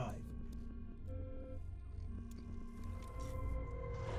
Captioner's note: beeping and whirring